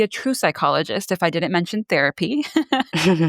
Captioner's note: laughs